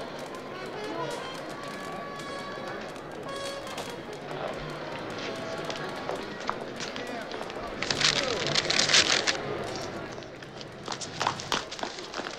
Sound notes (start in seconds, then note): 6.0 footsteps approaching; 7.7 shuffling bag of fruits; 10.0 running